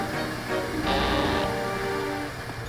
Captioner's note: rope creaking